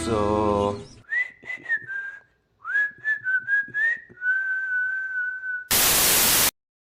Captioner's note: whistling in tune